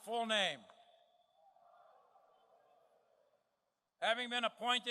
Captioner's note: cadets repeating